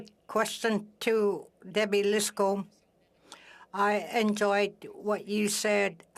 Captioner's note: speaking French